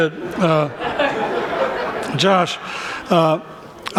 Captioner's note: laughter